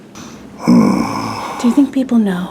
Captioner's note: snores